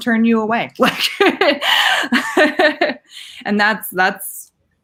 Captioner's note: laughing